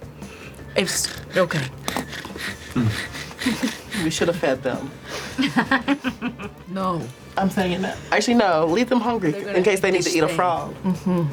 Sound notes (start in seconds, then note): 0.7 snoring; 6.0 laughs